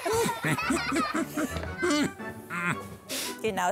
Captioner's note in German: TanzTapir stöhnt und lacht